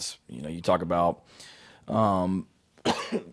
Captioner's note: coughs